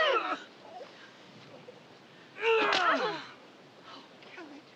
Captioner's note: grunting